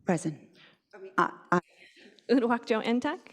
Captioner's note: chuckles